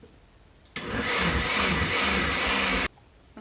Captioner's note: blender whirring